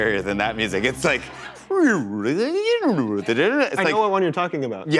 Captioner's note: warbled vocalization